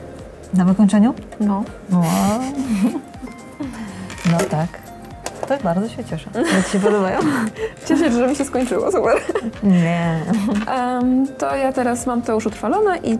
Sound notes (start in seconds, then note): 2.0 laugh